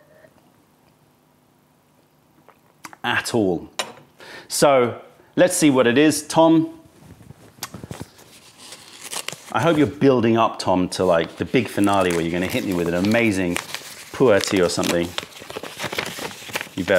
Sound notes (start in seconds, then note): 2.4 sips tea; 7.6 opening envelope